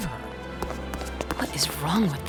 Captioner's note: hurrying footsteps